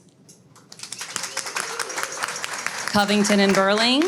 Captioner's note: audience claps